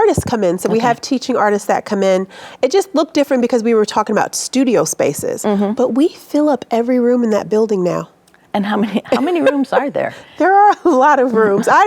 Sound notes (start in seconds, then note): 9.0 chuckling